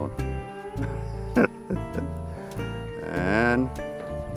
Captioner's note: laughs